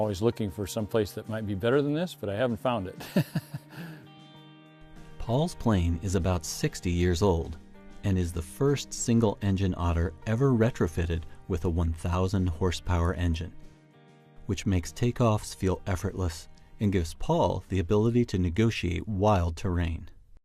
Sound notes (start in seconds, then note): 7.4 laughs